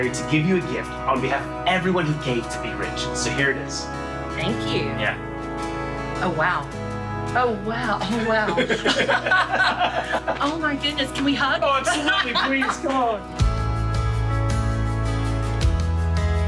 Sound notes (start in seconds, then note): 8.1 both laughing; 13.8 bright music